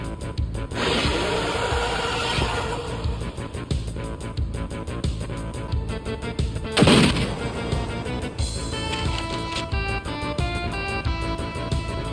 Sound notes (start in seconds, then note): 6.7 gunshot fires